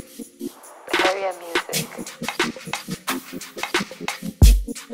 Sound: automated Voice

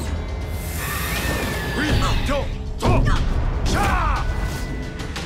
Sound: speaking Japanese

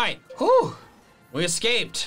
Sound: sighs

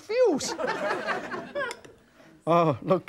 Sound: audience laughing

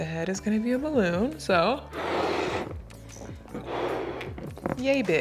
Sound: ballon whooshing

